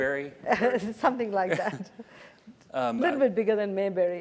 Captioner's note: laugh